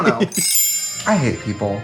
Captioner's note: chimes tinkle